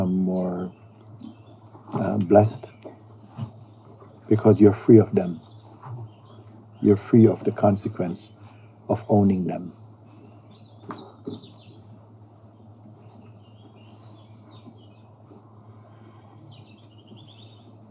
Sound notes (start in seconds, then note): 11.5 silence